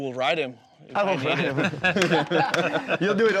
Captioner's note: laughs, claps